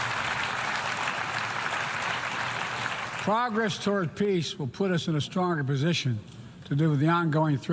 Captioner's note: applause